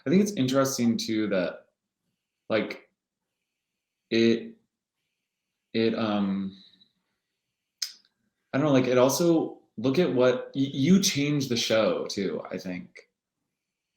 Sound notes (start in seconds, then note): none